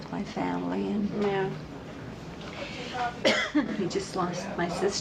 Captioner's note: coughs